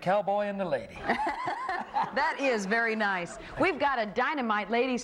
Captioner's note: laughs